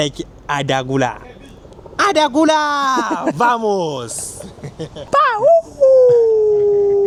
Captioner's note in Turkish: kahkaha